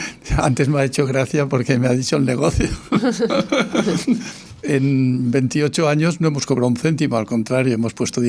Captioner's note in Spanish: risas